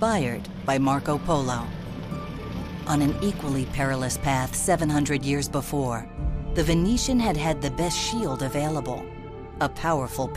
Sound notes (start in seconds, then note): none